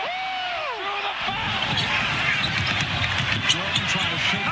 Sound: crowd cheering

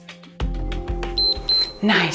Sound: timer beeps

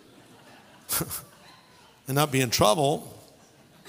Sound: laughter

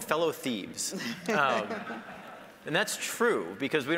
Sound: audience laughing

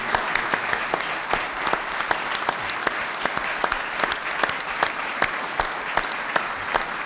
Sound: applause

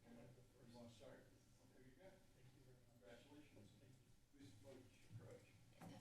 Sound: background conversations

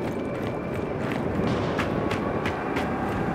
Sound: wind howling

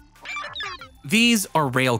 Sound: digital sounds

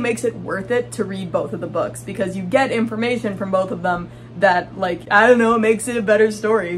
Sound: silly voice

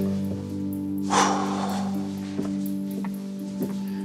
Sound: breathes out heavily

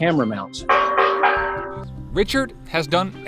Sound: camera mount clanging

